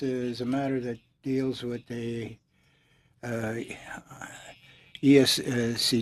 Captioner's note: speaking French